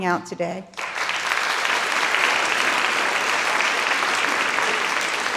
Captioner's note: audience applauding